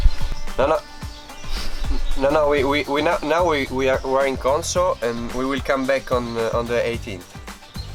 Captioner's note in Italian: Inglese